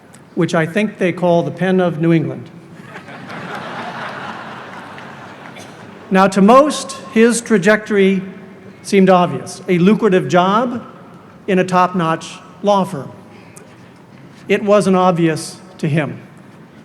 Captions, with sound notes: which I think they call the Penn of New England. (audience laughing) Now to most his trajectory seemed obvious, a lucrative job in a top notch law firm. It wasn't obvious to him.